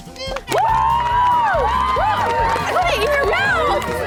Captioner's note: cheering